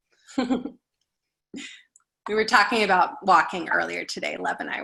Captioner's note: laughs